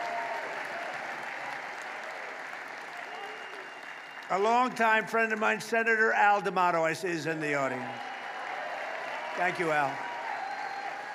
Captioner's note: applause